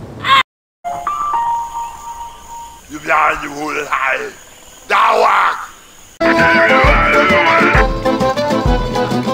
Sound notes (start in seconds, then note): 2.0 weird stealthy stronghold noise